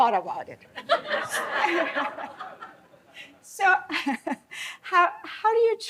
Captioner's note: laughter